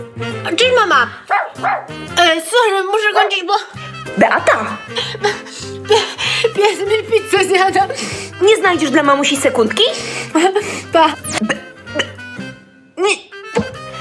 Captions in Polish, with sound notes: Cześć mama! Słuchaj, muszę kończyć, bo.... Beata!!! ....pies mi pizzę zjada! Nie znajdziesz dla mamusi sekundki?! Pa! [sygnał kończonego połączenia] B... B.... Nie!!!